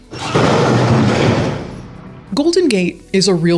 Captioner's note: casket crashes